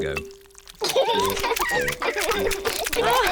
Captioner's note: both laugh; laughs and oinks